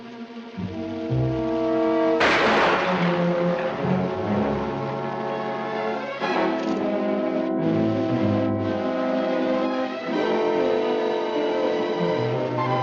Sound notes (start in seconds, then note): 2.2 firing; 10.0 suspenseful music